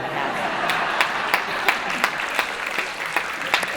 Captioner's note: laughter